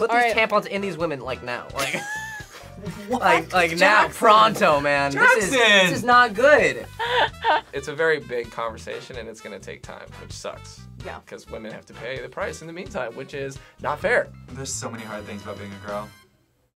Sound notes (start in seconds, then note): 1.8 laughs; 6.8 React laughs